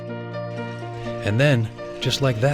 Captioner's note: voiceover